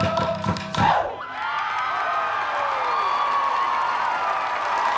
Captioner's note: cheering, applause